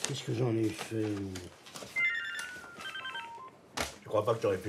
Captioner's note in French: Sonnerie de téléphone